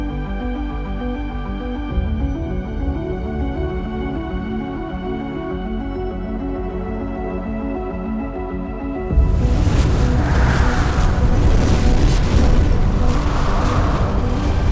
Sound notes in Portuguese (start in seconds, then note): 3.5 Ondas sonoras; 9.2 Explosão suave ao longe